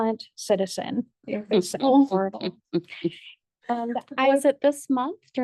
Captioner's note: board members laugh